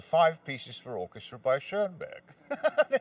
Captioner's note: laughs